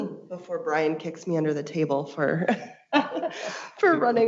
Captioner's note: laughs